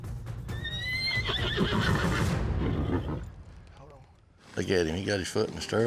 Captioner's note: horse neighing